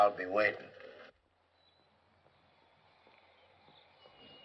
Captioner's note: silence